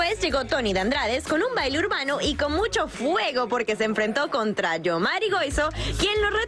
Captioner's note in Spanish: audio en ingés